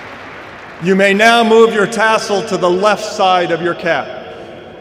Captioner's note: applause